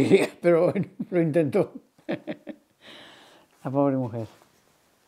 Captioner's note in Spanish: Ríe